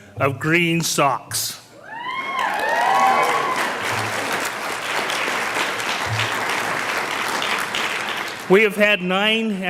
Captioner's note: sound of cheers and applause from the audience